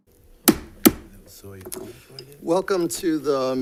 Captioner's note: gavel bangs